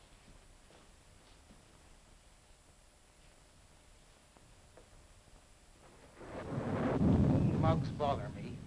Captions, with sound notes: (thunder rumbling) You mugs bother me.